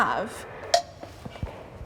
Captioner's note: stick clanking; footsteps thumping